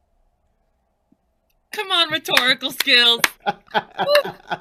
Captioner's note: laughing